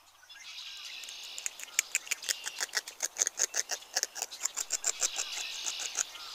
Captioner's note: sound of beaver chewing